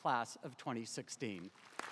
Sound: applause

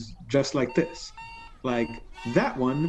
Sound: alarm ringing

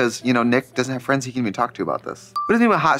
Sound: pause chime dinging

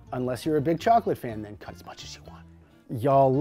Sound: whispering

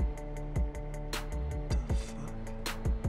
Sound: none

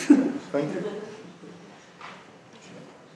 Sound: voiceover

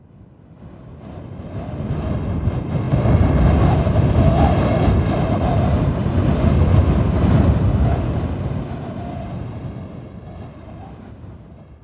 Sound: sound of air rushing past

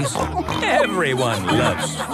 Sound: snorts

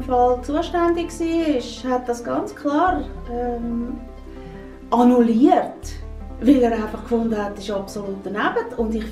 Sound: woman speak Swiss German

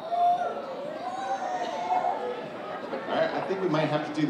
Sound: kids shouting

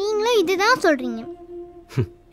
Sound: chuckles

